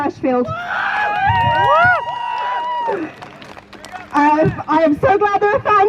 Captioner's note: crowd Cheers